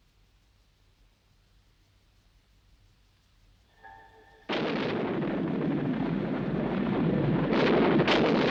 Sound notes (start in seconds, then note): 3.8 ominous music; 4.4 thunder crashing